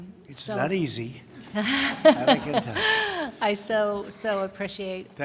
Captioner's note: laughter